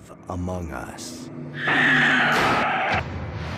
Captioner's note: door slams